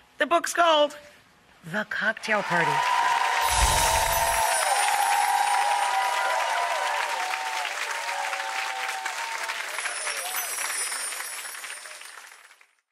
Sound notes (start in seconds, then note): 3.3 audience cheers